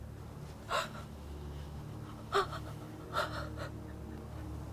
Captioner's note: Julie whimpers struggling with emotional pain